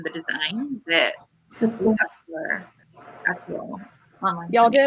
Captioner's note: radio interference drowns out speaker